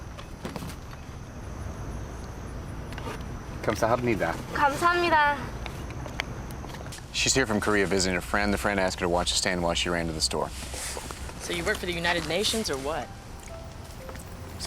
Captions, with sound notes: (both speaking Korean) - She's here from Korea visiting her friend. The friend asked her to watch the stand while she ran to the store. - So you work for the United Nations or what?